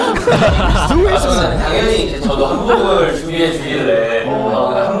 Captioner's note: rambling